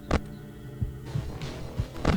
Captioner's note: radio turns on